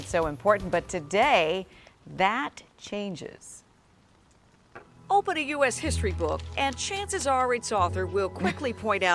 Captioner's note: laughter